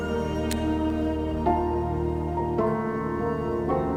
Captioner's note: soft music; gun click